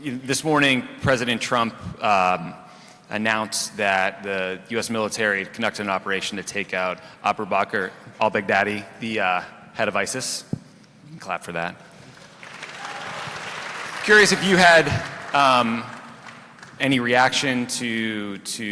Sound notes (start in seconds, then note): 12.0 applause